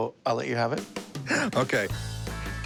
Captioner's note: chuckles